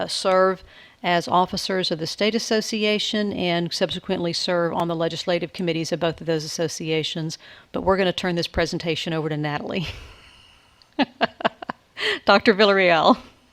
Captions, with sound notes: serve as officers of the State Association and subsequently serve on the Legislative Committees of both of those associations. But we're gonna turn this presentation over to Natalie. (laughs loudly) Doctor Villarreal.